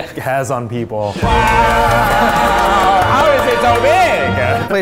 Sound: men exclaiming; hands clapping

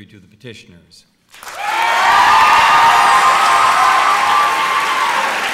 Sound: applause

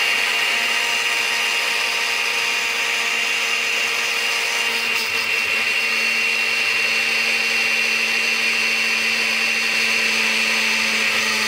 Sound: sound of blender

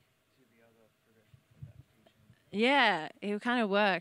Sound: speaks away from mic

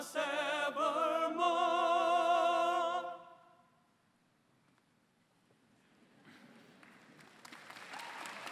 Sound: applause

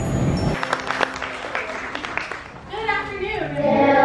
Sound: applause

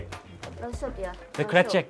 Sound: speaking in a foreign language

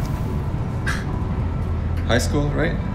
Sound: chuckle

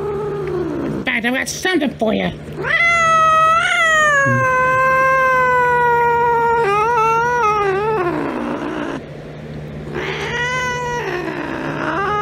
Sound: meows loudly

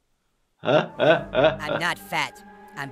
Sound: chuckles

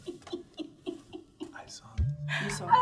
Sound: giggling

